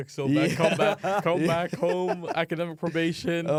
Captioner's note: laughs